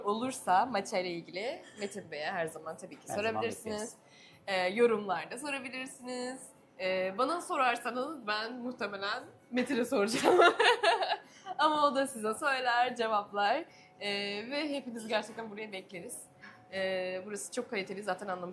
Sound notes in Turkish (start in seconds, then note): 10.1 kahkaha